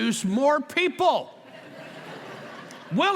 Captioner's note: laughter